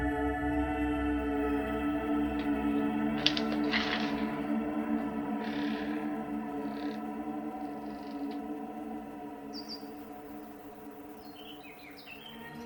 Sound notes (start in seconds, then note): 3.4 latch rattling; 5.5 hinges squeaking; 9.7 birds chirping